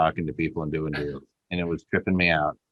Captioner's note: laughing